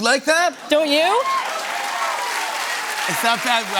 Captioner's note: cheers and applause